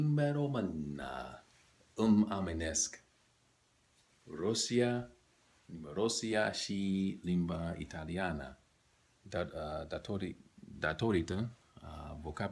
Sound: romanian

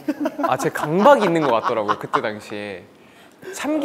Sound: laughing

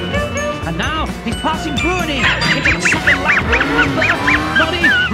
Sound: Muttley laughs

